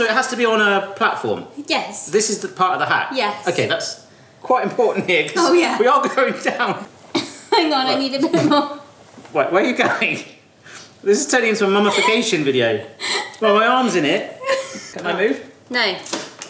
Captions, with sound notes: - Oh, so it has to be on a platform? - Yes. - This is the part of the hack? - Yes. - Okay, that's quite important here, 'cause- - Oh yeah. - We are going down. - (laughs) Hang on, I need a bit more. - Wait, where are you going? This is turning into a mummification video. Well, my arm's in it. Can I move? - No.